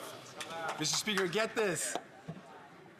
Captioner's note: some Applause